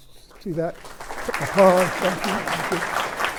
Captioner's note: applause